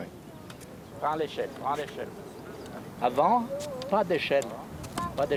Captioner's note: speaking in foreign language